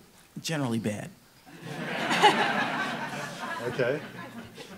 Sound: laughing

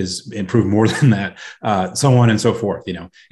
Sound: chuckles

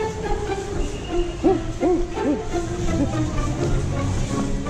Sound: gorilla noises

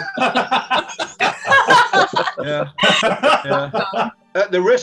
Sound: laughing

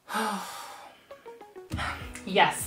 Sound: sigh

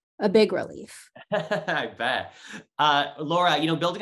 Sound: laughs

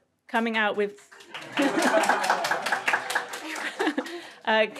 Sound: crowd applauds

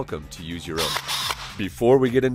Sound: drill whirring

